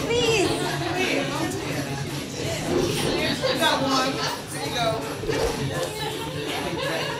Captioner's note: audience laughing; bollywood music